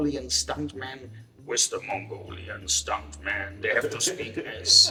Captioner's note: in a deep voice